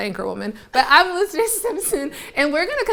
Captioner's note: laughs